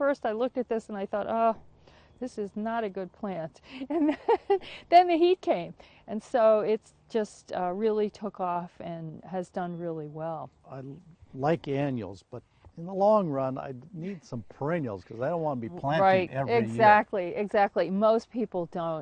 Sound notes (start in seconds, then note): 3.8 laughs